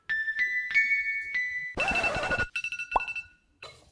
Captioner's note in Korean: 띠리리링